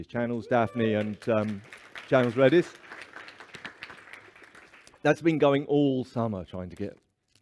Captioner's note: applause